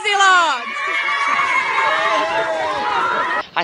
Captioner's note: screams